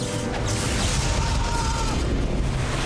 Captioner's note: guard screams